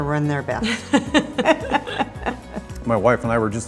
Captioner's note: both laugh